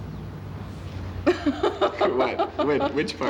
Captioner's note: laughing